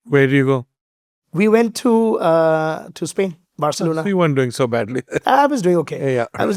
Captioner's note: chuckles